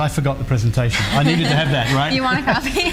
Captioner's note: laughs